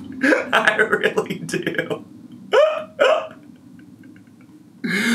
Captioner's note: laughs